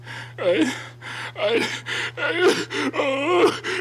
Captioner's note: breathing heavily